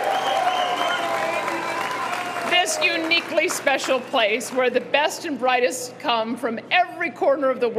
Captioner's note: cheering